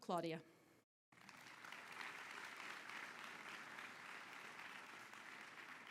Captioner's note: audience clapping